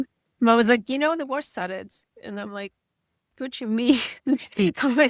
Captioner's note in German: lacht